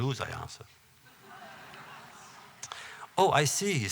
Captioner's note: laughter